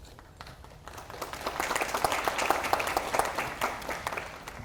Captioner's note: audience applauding